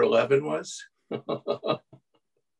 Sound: laughter

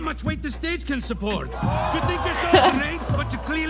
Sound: crowd gasps; laughs

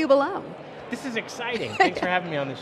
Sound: laughing

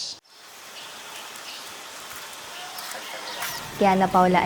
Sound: birds chirping

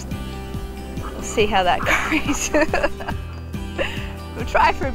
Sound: laughs

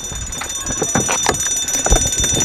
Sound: alarm ringing

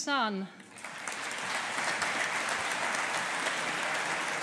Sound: audience applauding

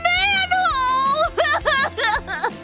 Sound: sobbing

